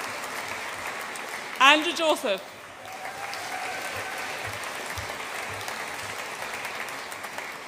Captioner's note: audience applauds and cheers; audience applauds and cheers